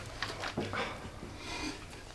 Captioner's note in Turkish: vurma sesleri